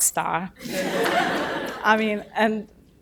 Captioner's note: audience laughing